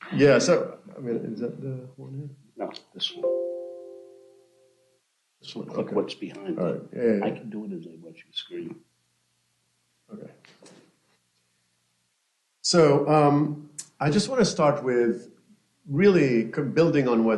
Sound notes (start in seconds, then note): 3.0 notification tone